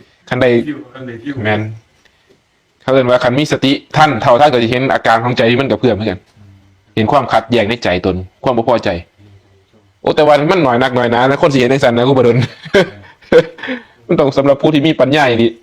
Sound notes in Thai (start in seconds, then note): 12.4 เสียงหัวเราะ